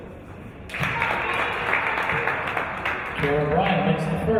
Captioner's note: applause